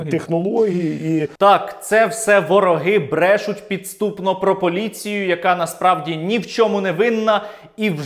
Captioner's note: sarcastically